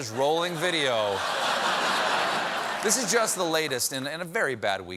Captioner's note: laughter